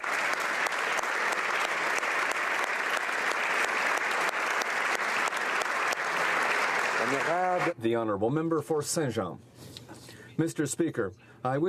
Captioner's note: applause